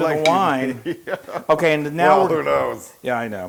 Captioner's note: laugh